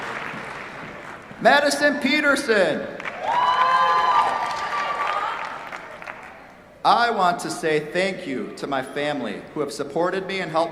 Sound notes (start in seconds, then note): 0.0 applause; 2.9 cheers, applause